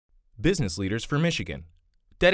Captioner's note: voiceover